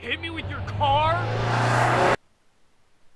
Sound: sounds of a car speeding closer

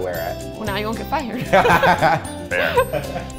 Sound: laughing

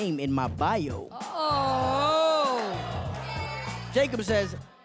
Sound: audience groans

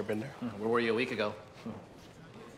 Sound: small chuckle

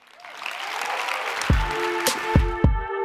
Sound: applause

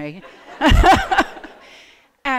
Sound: laughs

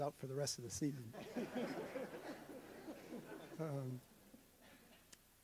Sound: audience laughs

